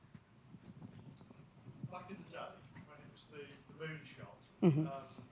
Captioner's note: mumbles off mic